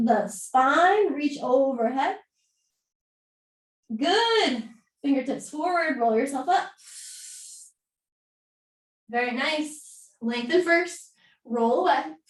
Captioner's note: exhaling